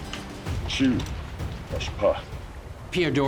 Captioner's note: speaking sioux